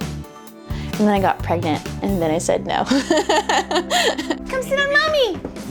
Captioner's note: laughing